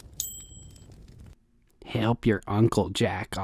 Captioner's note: dinging